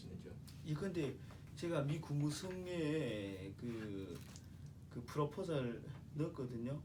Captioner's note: speaking korean